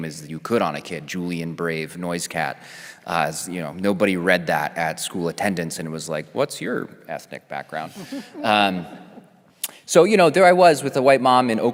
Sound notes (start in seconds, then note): 7.8 panelist chuckling